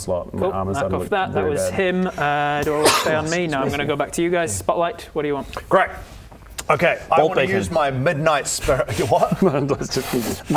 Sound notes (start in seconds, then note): 2.6 achoo